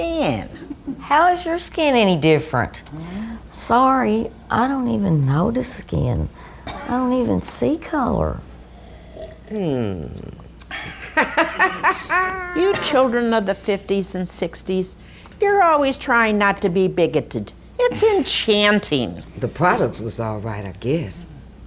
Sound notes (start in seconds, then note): 10.7 Virginia laughs